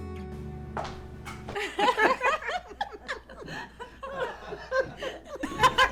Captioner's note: laughter